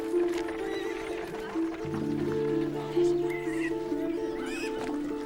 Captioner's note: horse neighing